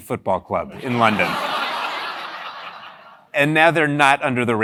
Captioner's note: laugh